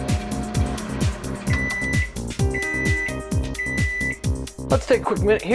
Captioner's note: beeping